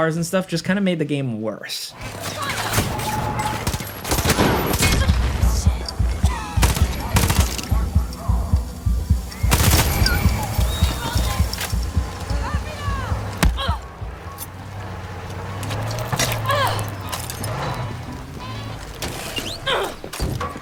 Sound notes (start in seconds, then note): 2.0 gun firing; 11.1 people yelling